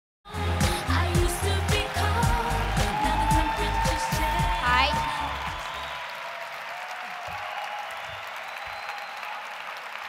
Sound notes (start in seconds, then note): 5.2 applause